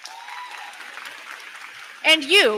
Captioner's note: crowd cheering; crowd clapping